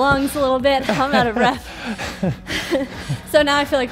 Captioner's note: laughs